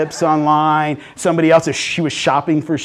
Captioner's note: laughing